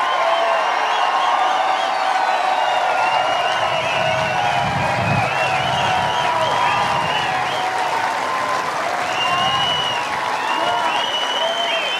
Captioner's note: cheers and applause